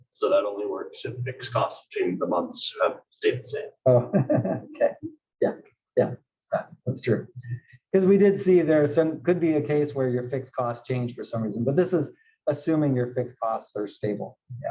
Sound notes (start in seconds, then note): 3.9 laugh